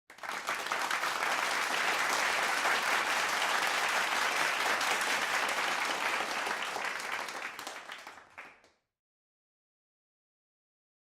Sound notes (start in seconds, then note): 0.3 crowd clapping